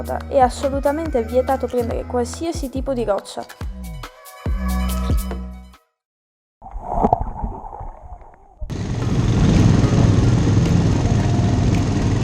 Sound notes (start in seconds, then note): 6.6 water sound